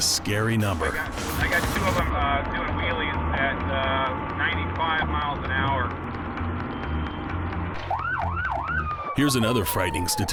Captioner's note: officer on radio